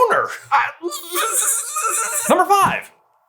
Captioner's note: noises like being electrocuted while frustrated